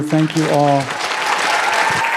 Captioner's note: applause